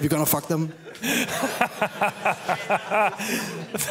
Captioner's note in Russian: смех